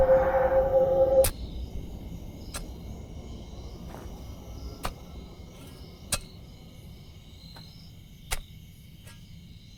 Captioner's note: the wind stops abruptly